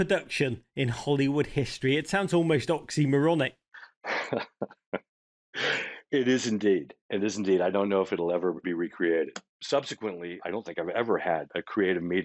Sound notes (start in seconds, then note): 3.8 chuckling